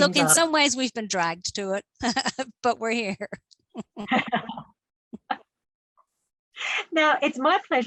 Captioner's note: laughs